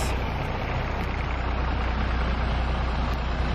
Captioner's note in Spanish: sonido del bus 'King Long'